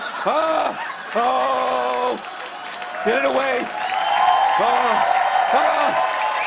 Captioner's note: cheers and applause